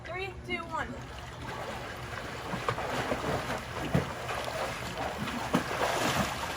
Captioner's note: water splooshes